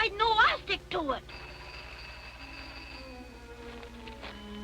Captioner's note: phone ringing